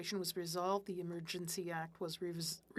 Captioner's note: speaking French